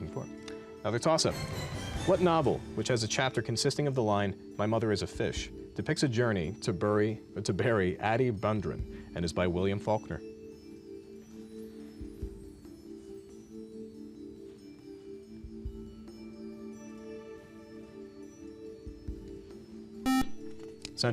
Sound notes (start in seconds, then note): 17.9 buzzer